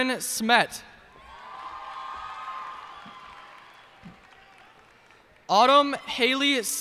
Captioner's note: cheers and applause